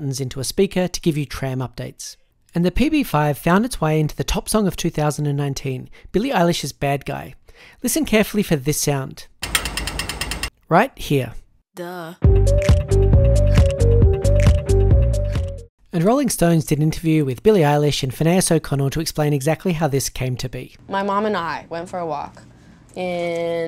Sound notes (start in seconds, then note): 9.4 rapid clicking; 12.2 upbeat music